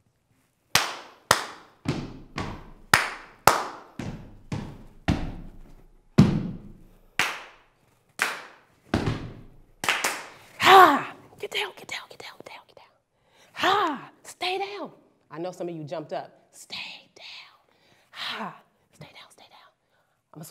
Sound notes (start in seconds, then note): 0.7 clapping and stomping; 4.8 stomp stomp; 6.8 clap clap